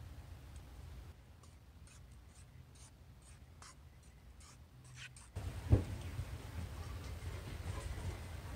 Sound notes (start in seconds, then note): 1.3 scraping; 5.4 wind